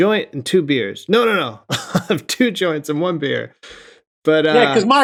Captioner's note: laughter